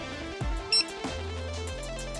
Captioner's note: scanner beeping